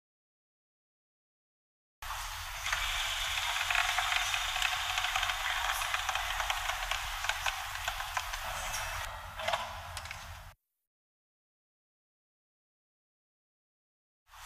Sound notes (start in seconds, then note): 2.6 machine sound